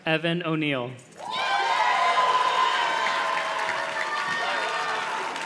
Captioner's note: audience cheers and claps